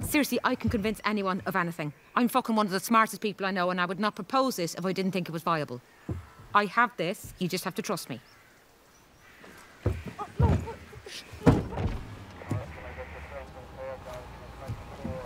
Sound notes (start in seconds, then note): 11.3 window winds down; 11.4 boot closes